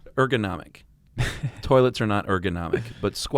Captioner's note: laughs